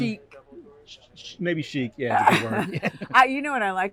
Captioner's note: laughter